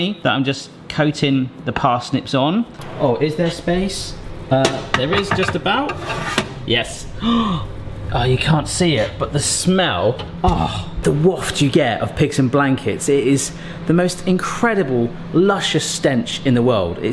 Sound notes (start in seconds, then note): 7.2 gasps